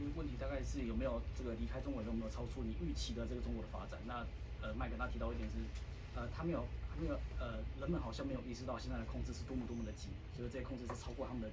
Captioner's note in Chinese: 用中文發言